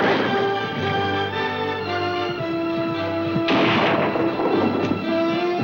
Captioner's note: gunshots